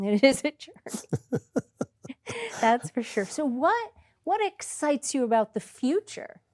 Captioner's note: laughter